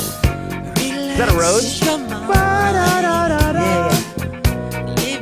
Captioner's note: vocalizes